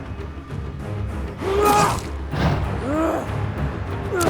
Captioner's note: Rob grunting; ax thudding; dramatic orchestral music